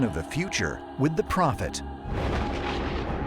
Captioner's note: thunder